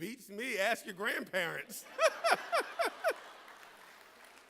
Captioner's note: laughing